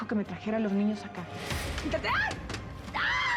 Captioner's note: gritos